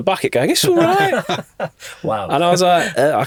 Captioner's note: podcasters laughing